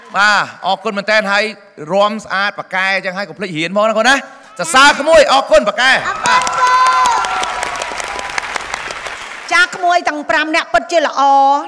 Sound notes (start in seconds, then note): 6.0 applause